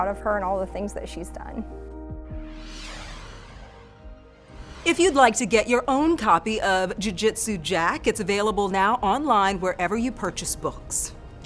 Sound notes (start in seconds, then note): 0.0 gentle music; 2.3 graphics whoosh